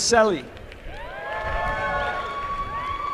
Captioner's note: applause